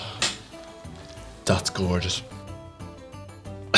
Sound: gasp

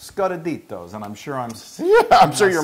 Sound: laugh

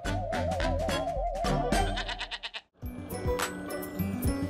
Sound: quirky music; baa

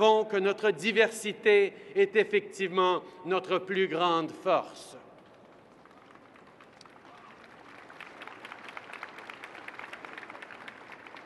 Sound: applause

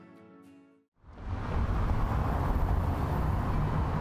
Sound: cars humming

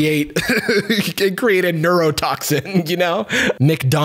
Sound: chuckles

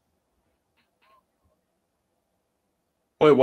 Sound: confused

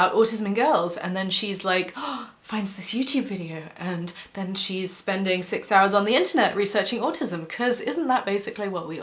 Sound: gasp

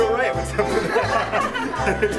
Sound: laughing

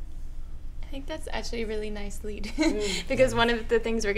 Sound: laughs

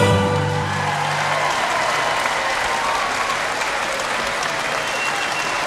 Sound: audience cheering and clapping

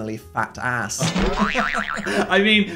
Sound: Phil laughs

